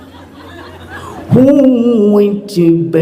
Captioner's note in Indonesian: tertawa